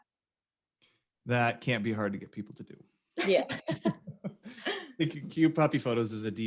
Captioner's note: all laugh